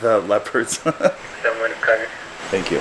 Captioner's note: laughing amusingly